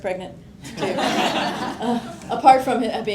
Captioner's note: laughter